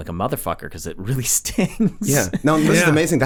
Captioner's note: laughs